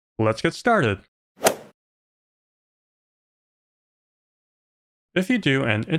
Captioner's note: golf ball hit sound